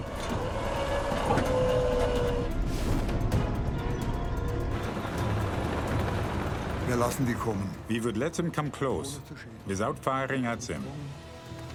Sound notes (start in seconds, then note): 0.1 suspenseful music; 6.7 speaking in foreign language